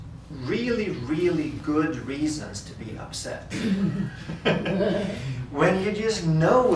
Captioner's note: group laughter